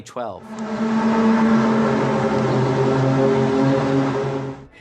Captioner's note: groaning sound